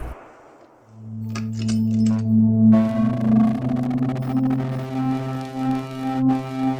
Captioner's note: gun firing; forlorn music; clattering